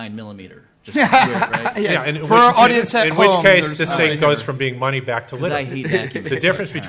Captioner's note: laughs